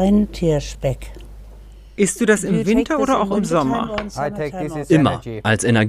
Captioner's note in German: englisch